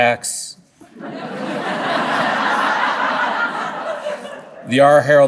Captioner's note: audience laughing